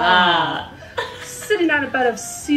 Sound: laughing

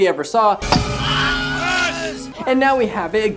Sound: Buzz Lightyear screams

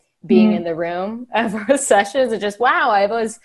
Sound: laughing

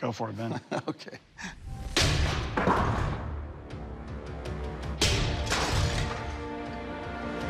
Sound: chuckles; smashing

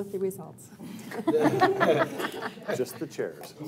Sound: crowd laughing

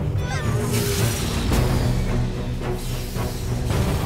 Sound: ships whoosh

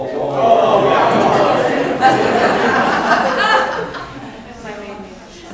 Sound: people laughing and cheering

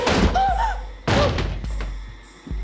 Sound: gasps

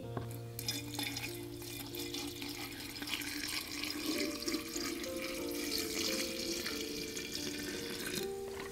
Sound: vinegar pours into glass

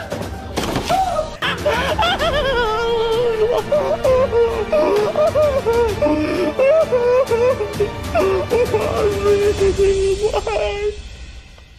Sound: crying & Choking

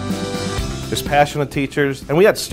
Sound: voiceover

